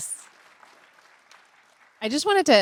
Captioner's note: participants applauding